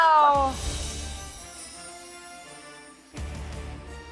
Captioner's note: chiming